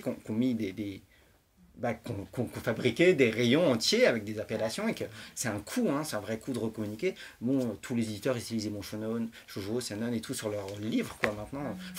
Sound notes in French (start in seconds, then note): none